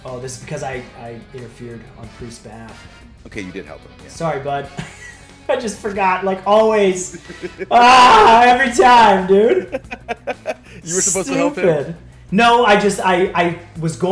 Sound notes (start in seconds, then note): 6.9 laugh